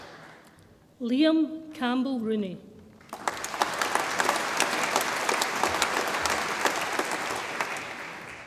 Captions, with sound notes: Liam Campbell Rooney, (audience applauds)